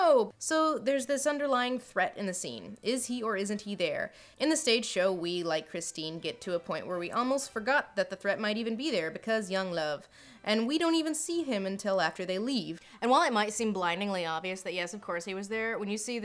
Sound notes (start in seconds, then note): none